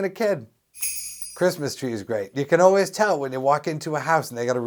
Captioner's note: SFX: jingle bells